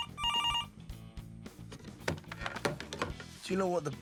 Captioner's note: phone ringing